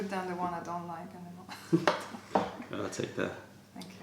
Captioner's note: french; laughter; french